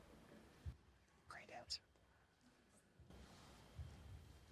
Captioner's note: whisper